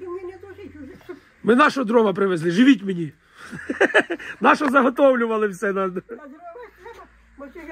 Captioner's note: laughing